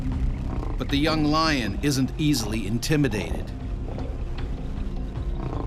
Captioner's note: voiceover